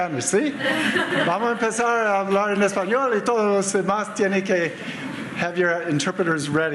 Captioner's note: speaking Spanish